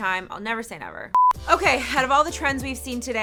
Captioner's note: beep